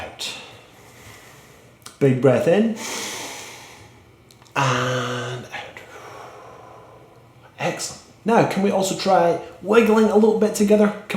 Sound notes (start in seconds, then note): 0.0 inhales; 0.3 exhales; 2.7 inhales; 5.4 exhales